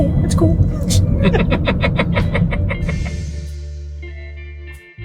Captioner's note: chuckling; chill music